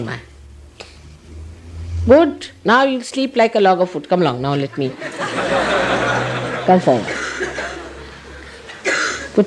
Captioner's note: laughter